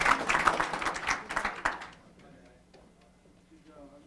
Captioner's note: applause